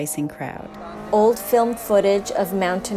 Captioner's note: engine revs; speaking in Japanese